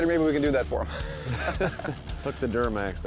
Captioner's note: laughing